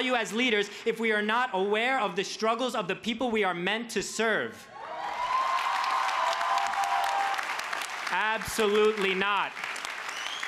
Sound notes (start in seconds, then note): 4.8 crowd cheers